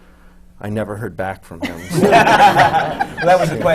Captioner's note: laughter